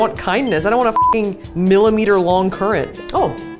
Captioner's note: beep